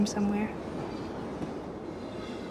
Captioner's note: train fades